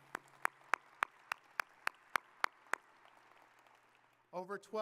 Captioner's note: audience applauding